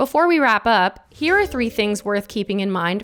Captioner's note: slide chiming